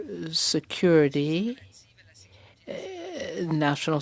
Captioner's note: speaking French